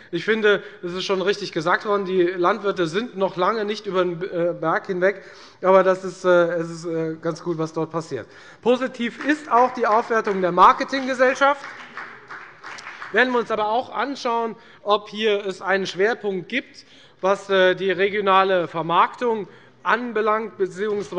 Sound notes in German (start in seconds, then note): 9.0 Beifall bei der FDP